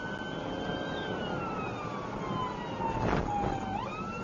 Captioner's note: engine accelerating